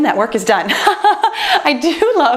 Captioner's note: laughs